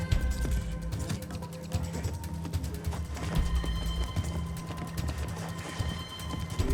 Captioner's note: tribal chatter